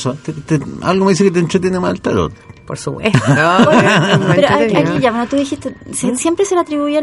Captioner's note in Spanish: risas